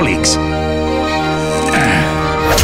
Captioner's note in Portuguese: Grunts